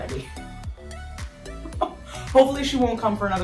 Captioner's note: laughs